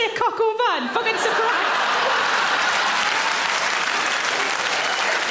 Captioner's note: audience laugh and clap